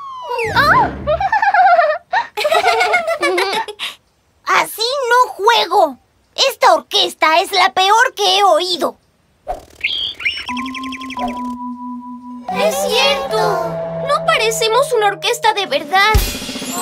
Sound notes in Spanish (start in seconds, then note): 1.1 Risas; 9.6 Sonido de pájaro